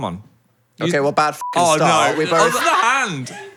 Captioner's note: beep